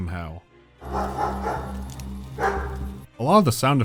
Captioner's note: dog's barking